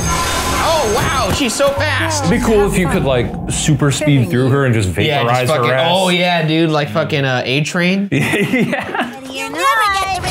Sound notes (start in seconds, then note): 8.1 chuckles